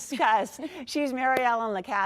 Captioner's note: laughter